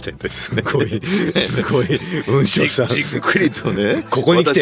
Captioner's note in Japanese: 笑い